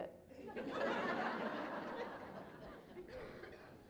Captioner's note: laughter